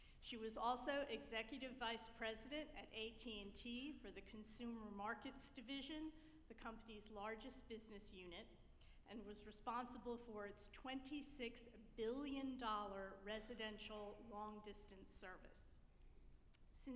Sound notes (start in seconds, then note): none